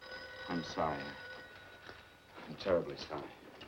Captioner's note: telephone ringing